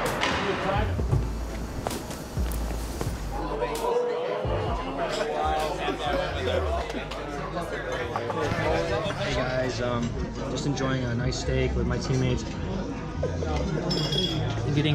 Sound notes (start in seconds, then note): 3.8 restaurant chattering